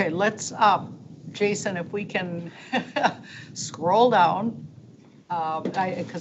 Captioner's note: chuckles